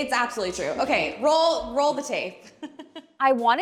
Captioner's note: laughing